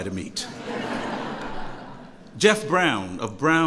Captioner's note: laughter